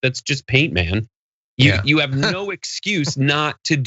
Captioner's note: laugh